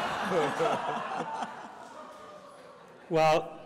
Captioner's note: audience laughs